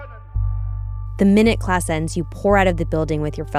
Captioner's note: shouting in German